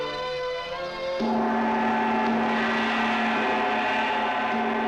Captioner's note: gong resounding